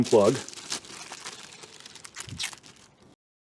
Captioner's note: package opening noises